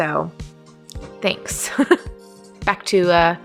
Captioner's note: laughs